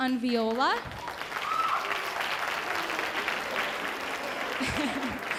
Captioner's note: audience applauding